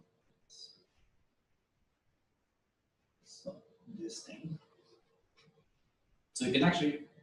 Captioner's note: pause